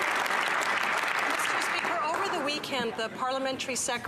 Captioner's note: speaking French